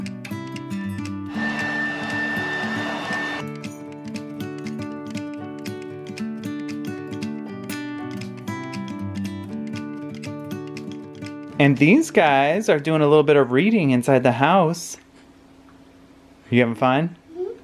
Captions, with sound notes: (machine whirring) (soft music) And these guys are doing a little bit of reading inside the house. You having fun?